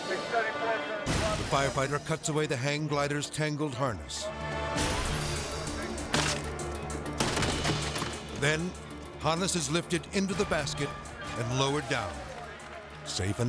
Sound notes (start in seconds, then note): 6.1 hang glider thumps